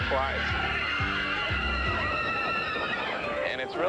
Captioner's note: riders screaming